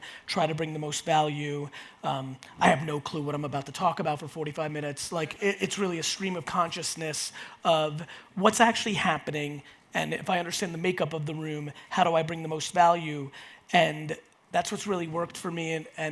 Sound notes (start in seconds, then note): none